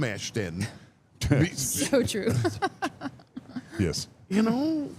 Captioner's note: laughs